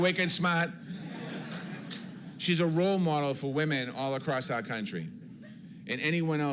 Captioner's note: laughter